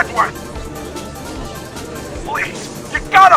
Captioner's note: gallery chattering